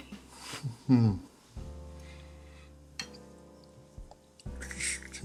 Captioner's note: Tim grunts